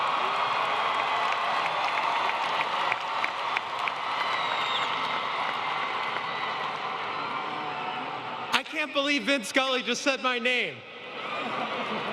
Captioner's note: applause